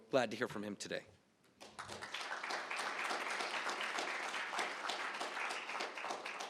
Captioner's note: applause